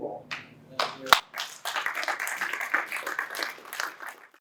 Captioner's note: applause